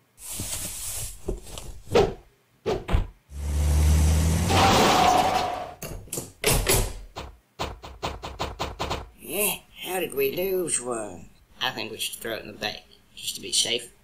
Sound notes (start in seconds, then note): 2.7 thud; 3.3 bank drives by and then stops; 3.4 tire screeches; 6.4 bank truck opens